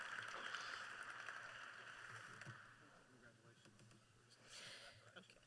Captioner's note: applause